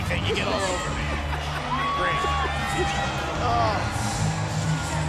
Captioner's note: laugh